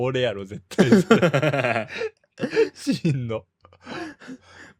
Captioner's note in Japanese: 笑い